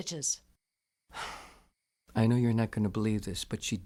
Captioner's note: sighs